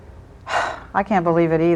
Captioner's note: sighs